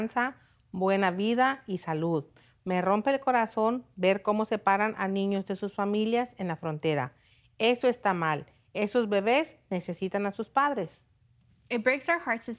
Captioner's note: speaking foreign language